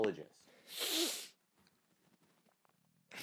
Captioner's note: sniffs aggressively